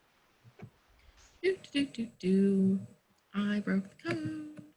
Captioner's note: humming